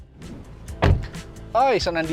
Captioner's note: door thuds